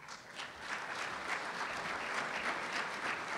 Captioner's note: applause